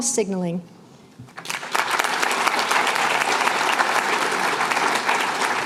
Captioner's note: applause